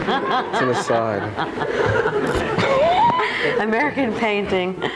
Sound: all laughing

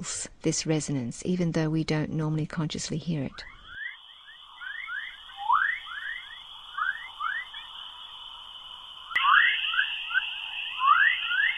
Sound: weird spacey whistling sounds

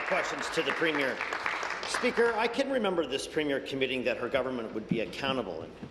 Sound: applause

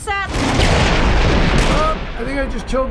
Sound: loud thunder, gunshot

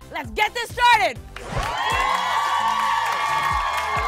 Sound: cheers and applause

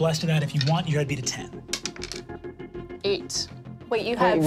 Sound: dice clatters

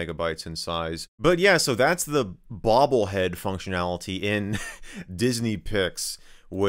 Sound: laughs

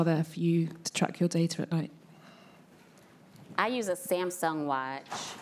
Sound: none

